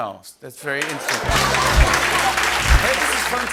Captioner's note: cheering and applause